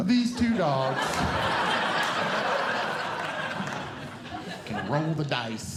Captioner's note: audience Laughing